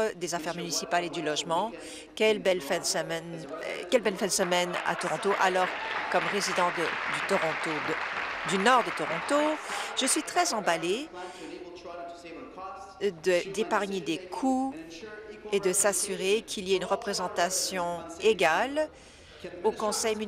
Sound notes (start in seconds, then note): 11.9 applause